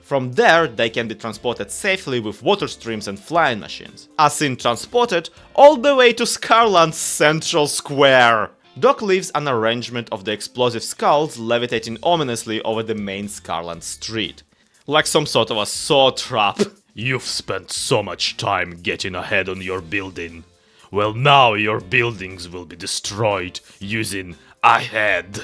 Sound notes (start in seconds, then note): 16.5 "scary" voice